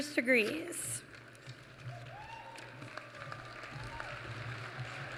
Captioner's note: applause